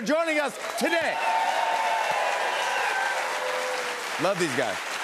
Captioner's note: cheers and applause